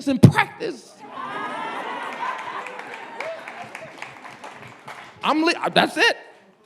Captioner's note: audience laughing and clapping